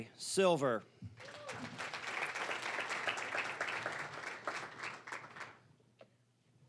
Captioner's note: applause